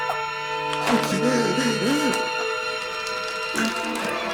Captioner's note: heavy breathing; tiles dropping